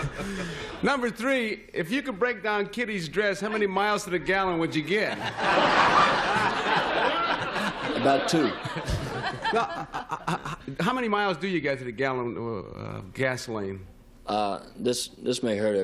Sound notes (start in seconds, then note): 6.9 laughter